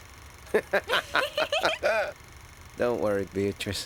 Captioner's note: both chuckling